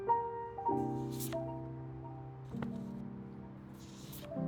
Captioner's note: shuffling